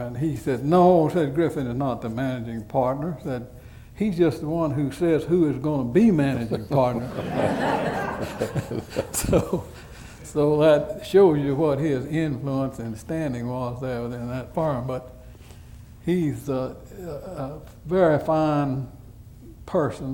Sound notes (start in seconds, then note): 6.9 laughter